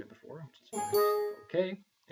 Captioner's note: dinging sound